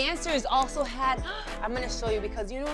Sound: gasps

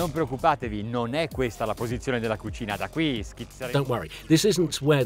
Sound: speaking Italian

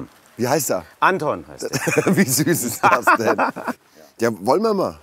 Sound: laughing

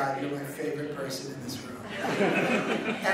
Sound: audience laughing

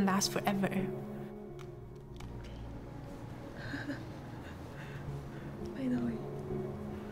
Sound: laughter

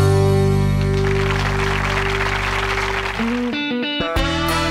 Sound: applause

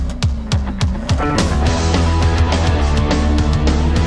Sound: engine revving; upbeat rock music

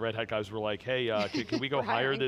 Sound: giggles

